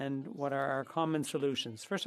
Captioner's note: speaking French